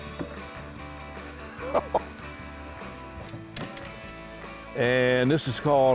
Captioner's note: laughs